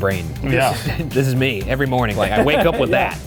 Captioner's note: laughing; chuckling